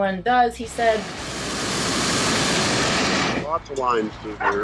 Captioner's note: burner roars